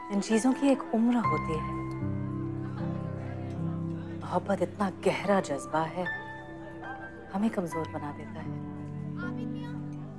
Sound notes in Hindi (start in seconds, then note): none